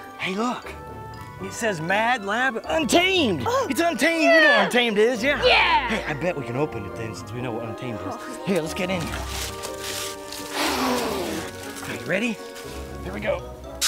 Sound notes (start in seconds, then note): 10.4 blowing air